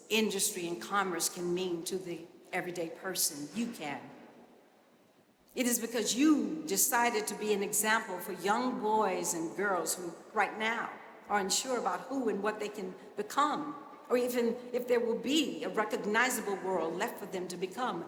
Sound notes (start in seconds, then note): none